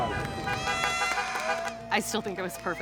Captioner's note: cheering, noisemakers